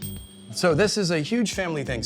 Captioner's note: ding chimes